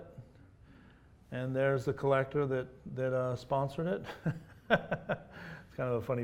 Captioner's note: laughs